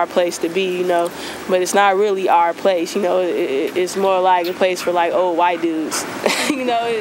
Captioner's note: laughing